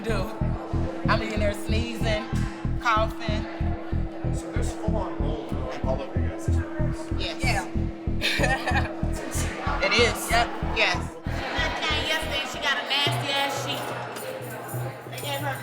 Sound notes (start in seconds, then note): 8.0 laughing